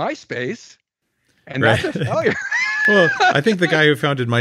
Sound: laughs

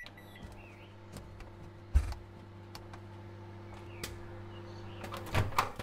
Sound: footsteps down the stairs as the microwave continues

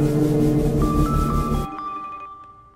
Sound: phone Ringing

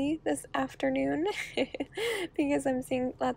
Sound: chuckling

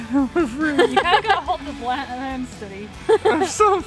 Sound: laughing

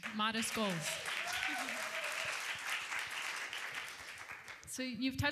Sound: applause

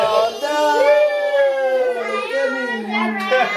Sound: laughing and singing

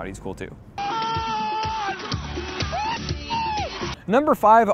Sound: cheering wildly

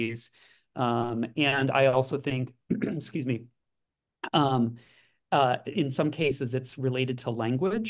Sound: cough

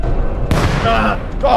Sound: boom

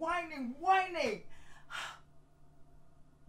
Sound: Efosa Sighs

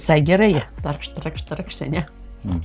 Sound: imitates sandwich eating sounds

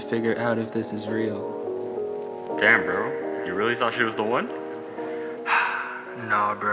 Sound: phone Call

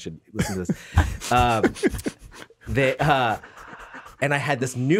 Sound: laughs

